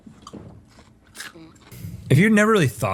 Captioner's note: tater tot cronch